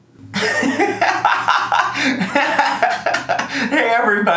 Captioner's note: laughing